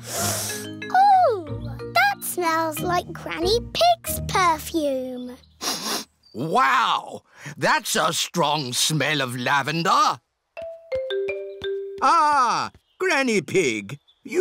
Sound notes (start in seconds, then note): 0.0 sniffs; 5.6 sniffs